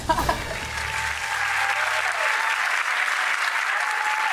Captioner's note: applause